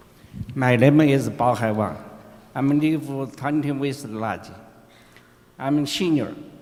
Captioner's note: speaking another language